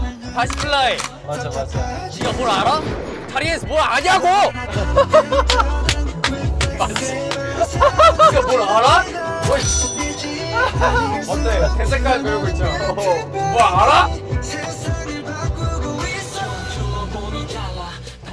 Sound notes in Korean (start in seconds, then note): 5.8 짝짝짝짝